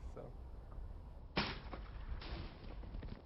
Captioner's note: shooting